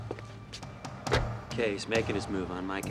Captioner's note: car door slams